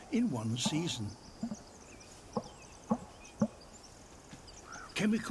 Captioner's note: deep vocalisations